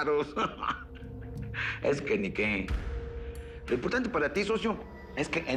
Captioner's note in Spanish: Ríe